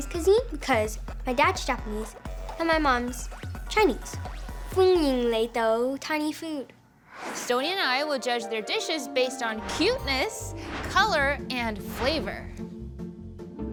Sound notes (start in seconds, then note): 4.5 speaking foreign language